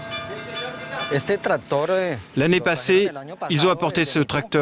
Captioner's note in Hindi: स्पैनिश बोलते हुए